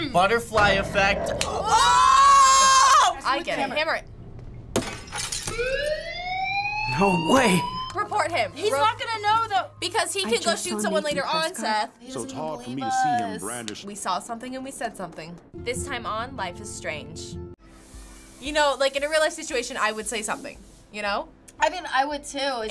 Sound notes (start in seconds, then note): 4.7 glass shattering; 5.6 fire bell wailing